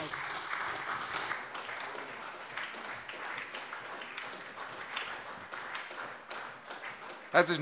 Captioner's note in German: Anhaltender Beifall bei der SPD